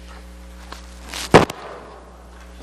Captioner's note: gunshot